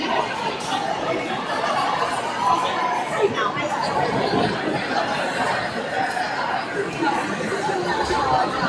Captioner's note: crowd chattering